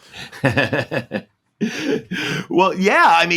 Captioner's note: Paul laughs